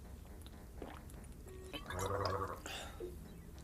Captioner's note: light gurgling